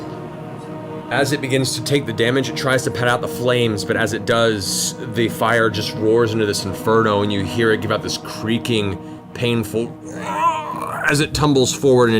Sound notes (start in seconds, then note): 10.0 pained groan